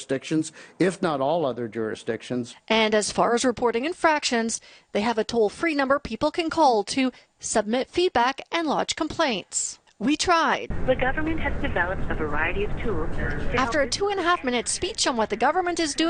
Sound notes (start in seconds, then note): 10.9 recorded voice